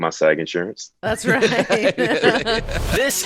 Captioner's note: chuckling